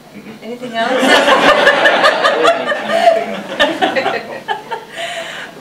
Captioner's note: audience laughing